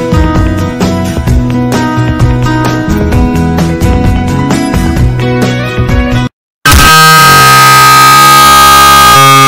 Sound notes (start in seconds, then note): 6.6 screaming